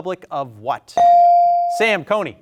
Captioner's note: buzzer chimes